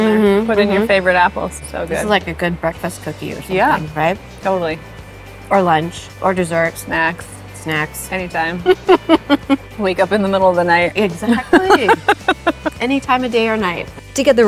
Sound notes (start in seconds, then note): 8.6 laughing; 11.2 laughing